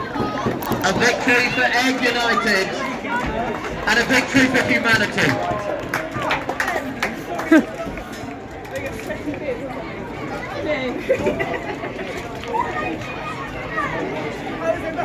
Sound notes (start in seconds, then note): 5.7 some more clapping